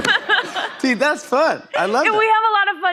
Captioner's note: laughter; normal voice